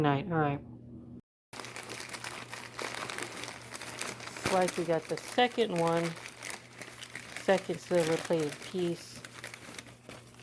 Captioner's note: crinkling of wrapping paper